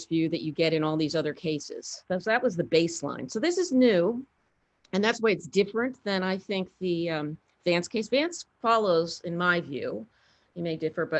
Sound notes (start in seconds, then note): none